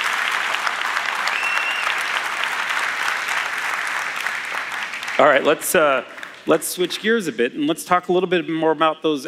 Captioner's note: cheers; applause